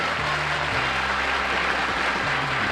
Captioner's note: applause